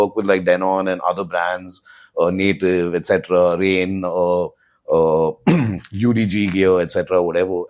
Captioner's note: clears throat